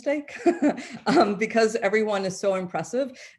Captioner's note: chuckles